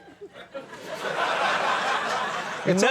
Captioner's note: audience laughing